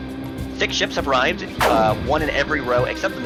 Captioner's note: ships shooting